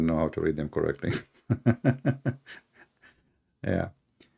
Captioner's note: Ketawa